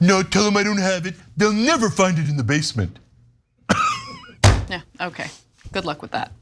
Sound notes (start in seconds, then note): 3.7 laugh